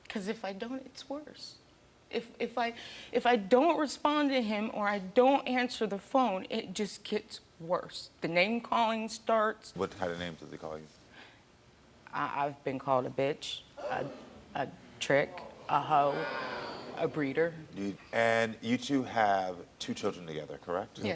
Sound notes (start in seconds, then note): 16.7 audience reacting